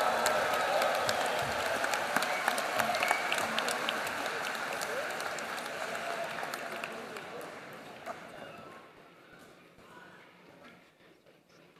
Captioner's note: applause